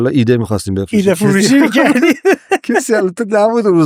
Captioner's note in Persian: خنده